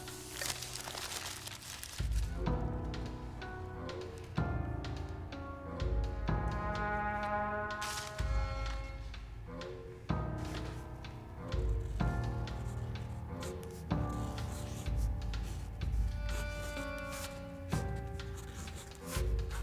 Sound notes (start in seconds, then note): 7.8 crinkling; 10.6 ominous music